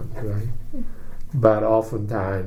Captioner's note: whispers